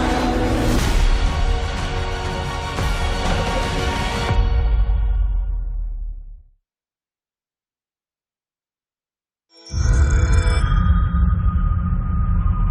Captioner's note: deafening roar